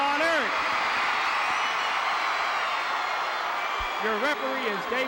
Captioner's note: audience cheering